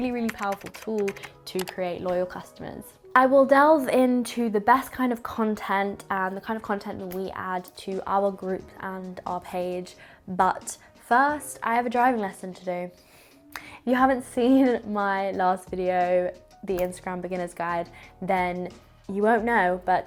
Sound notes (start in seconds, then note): none